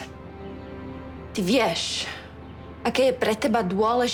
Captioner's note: Speaks Czech